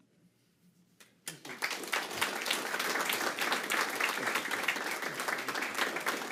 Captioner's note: applause